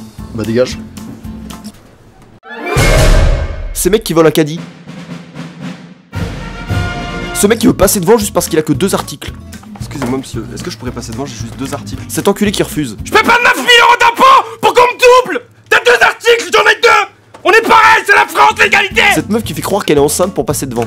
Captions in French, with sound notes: – Ben dégage « Ce mec qui vole un caddie » *musique épique* « Ce mec qui veut passer devant juste parce qu'il a que 2 articles » – Excusez-moi Monsieur, est-ce que je pourrais passer devant ? J'ai juste 2 articles « Cet enculé qui refuse » *crie fort* – JE PAIE PAS 9000€ D'IMPÔTS POUR QU'ON ME DOUBLE ! T'AS 2 ARTICLES, J'EN AI 2 ON EST PAREIL, C'EST LA FRANCE, L'ÉGALITÉ « Cette meuf qui fait croire qu'elle est enceinte pour passer devant »